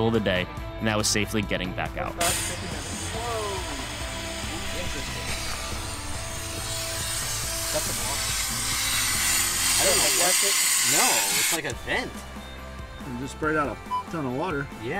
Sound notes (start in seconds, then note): 5.5 air whooshing; 13.8 beep